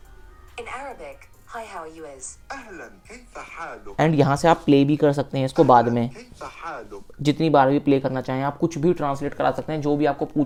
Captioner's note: Arabic language